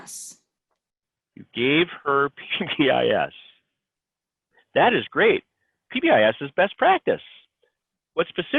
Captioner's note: laughs